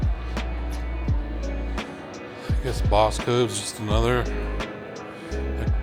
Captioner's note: children chattering